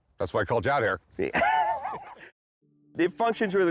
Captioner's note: laughs